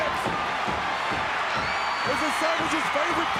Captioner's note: foot kicking